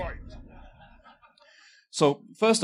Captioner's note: laughter